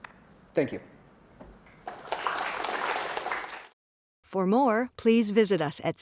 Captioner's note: applause